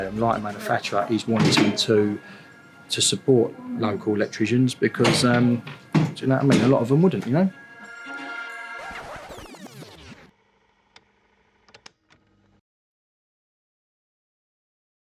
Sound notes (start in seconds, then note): 8.3 upbeat music; 9.1 cassette rewinding